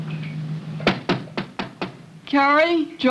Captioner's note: knocking